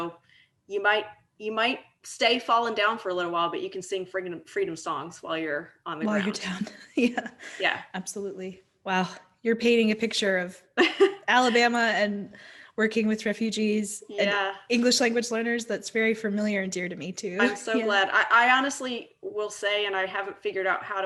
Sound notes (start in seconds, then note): 7.3 laughs; 11.1 laughing